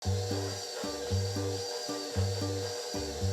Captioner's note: mixer whirring